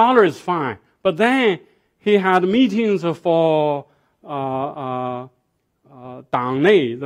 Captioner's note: speaking foreign language